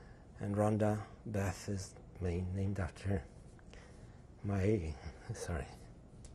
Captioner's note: voice breaks